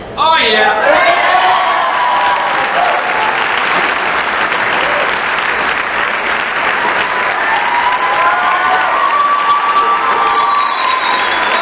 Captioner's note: crowd applauds